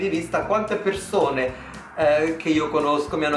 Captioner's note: italian